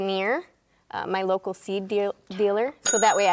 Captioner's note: bell dings